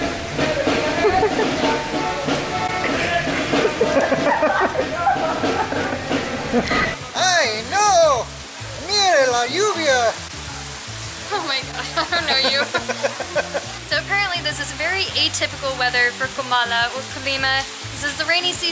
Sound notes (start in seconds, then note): 0.5 laughter; 11.7 laughter